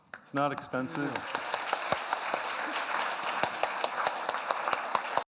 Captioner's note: applause